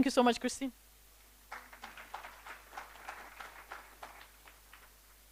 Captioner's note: applause